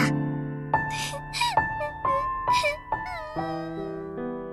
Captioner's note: whimper